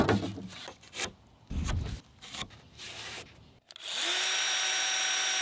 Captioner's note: pencil marking wood; sawing